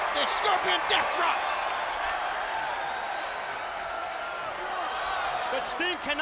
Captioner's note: applause